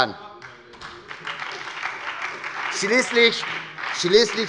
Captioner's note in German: Beifall bei der SPD und der FDP